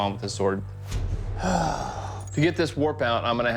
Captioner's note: sighs